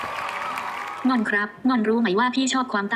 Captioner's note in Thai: เสียง ai